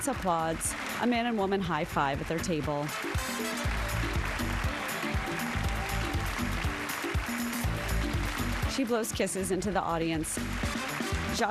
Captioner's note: applause